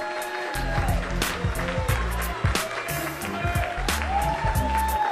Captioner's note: continued applause